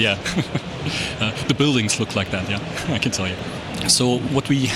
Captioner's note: laughs